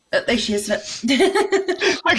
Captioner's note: laughs